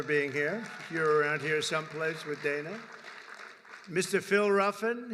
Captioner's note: applause